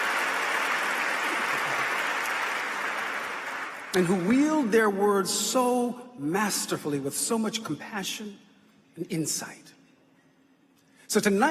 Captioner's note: applause